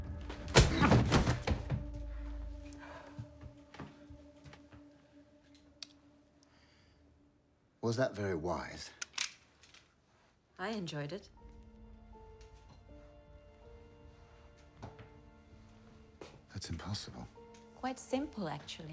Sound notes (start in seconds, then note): 0.5 thud; 9.0 gun cocks; 10.7 dark orchestral music